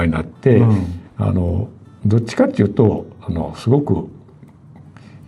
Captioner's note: laughs